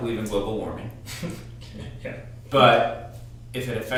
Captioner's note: laughs